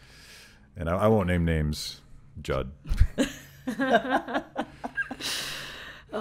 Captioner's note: laughing